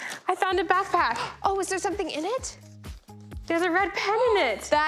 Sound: gasps

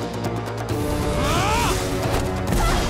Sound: grunting

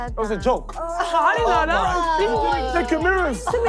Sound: contestants groaning

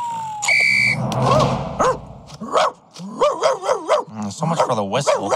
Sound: whistles, then barks

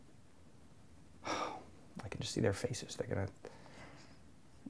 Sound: sigh

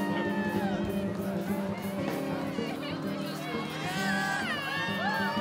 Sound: applause

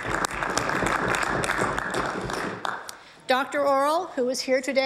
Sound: applause

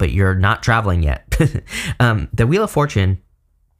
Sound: chuckling

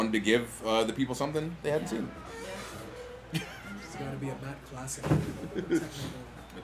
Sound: laugh

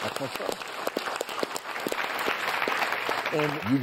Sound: audience claps

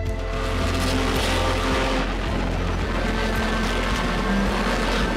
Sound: race car noises

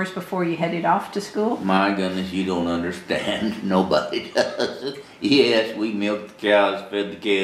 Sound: laughs

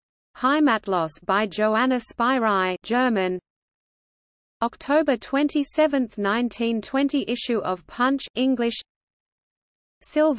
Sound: German

